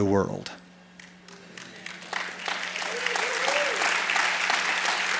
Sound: applause

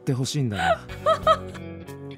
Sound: chuckles

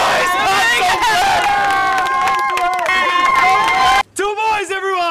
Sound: screaming and yelling

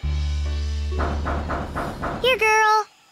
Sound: knocking

